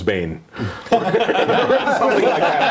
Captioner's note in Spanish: risas